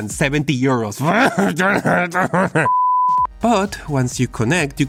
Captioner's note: angry noises